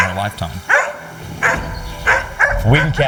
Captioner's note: Queenie barking